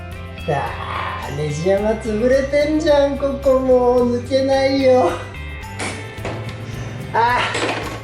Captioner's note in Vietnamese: cười